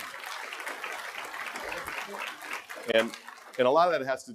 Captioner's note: applause